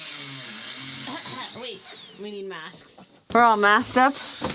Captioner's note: coughing